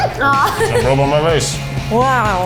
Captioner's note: laughs